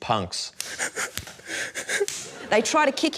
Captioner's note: whimpers